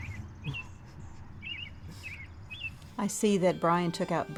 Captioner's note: laughs